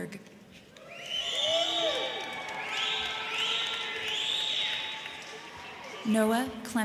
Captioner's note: crowd cheering; crowd clapping